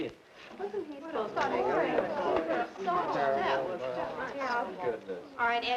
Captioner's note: class murmuring